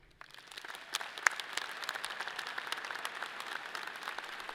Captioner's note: audience applauds